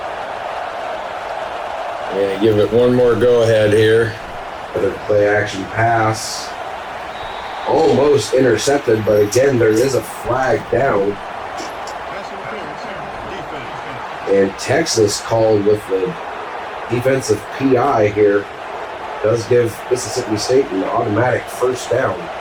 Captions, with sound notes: Yeah, give it one more go ahead here. [Crowd Noises] Better play action pass. Almost intercepted by the 10. There is a flag down. [Crowd Noises] And Texas called with the defensive PI here. Does give Mississippi State an automatic first down.